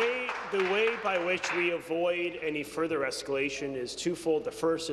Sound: applause

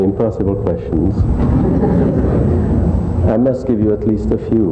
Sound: audience laughs

